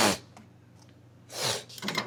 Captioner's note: sniff